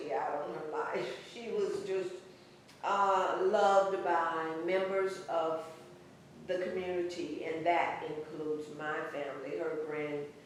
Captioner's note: laughs